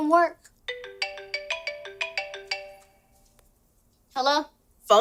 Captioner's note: cellphone rings